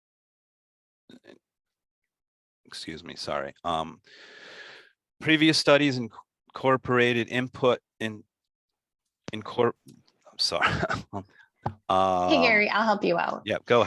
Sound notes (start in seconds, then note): 10.5 chuckles